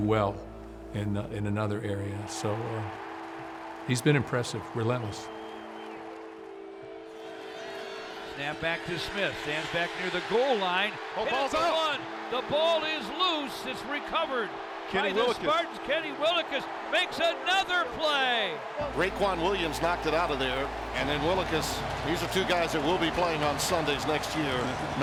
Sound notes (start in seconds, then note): 5.6 crowds cheering